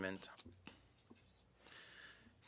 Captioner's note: speaking French